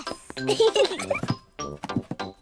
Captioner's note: both giggle